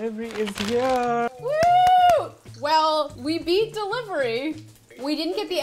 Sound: cheering

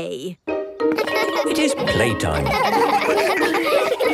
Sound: laughter

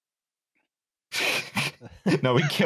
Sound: slight laughter

